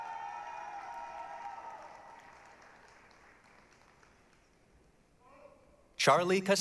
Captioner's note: applause, cheering